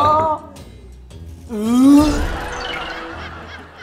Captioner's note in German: Würgen